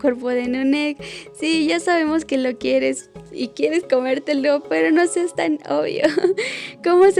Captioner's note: laugh